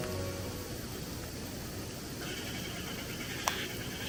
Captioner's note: sound of Nature